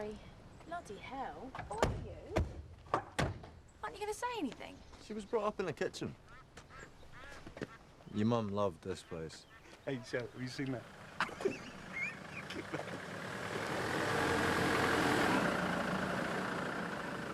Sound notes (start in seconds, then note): 11.1 laughs; 13.5 engine rumbling